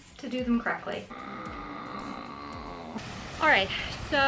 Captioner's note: groaning